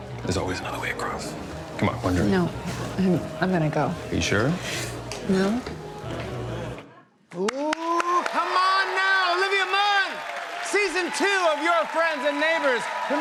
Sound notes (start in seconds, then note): 7.3 cheers and applause